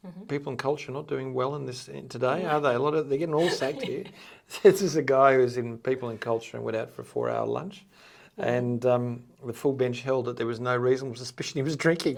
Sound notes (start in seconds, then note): 3.3 chuckling